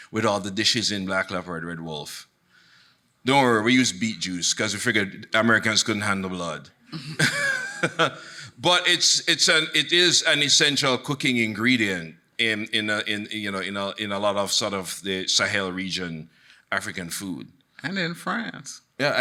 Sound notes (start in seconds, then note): 7.0 laughs; 7.4 audience laughing